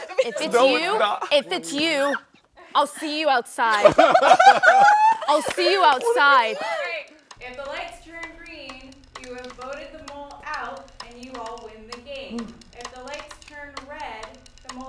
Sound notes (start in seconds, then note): 0.0 laughs; 3.6 participants laugh